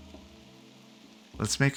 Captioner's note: silence